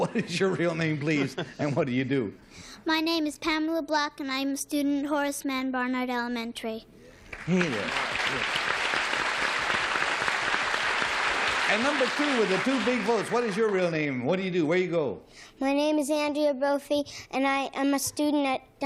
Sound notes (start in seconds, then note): 9.4 applause